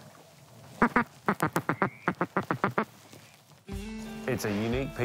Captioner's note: duck call